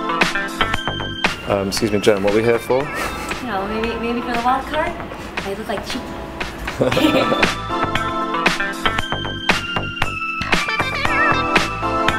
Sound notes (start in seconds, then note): 6.6 laughing; 8.5 upbeat electronic music